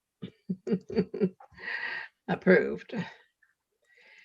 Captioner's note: chuckling